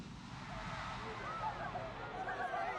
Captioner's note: shouts of "Madonna"